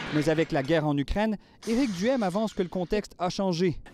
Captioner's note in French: explosion